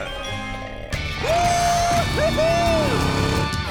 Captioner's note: cheering